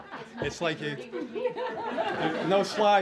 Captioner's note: laughter